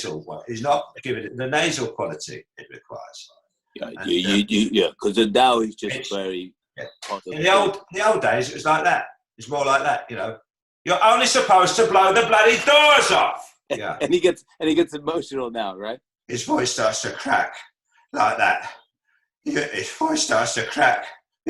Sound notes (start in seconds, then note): 7.3 Imitating Michael Caine; 16.3 voice breaking